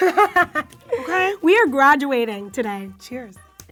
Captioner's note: laughs